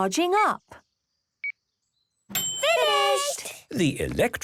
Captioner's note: dings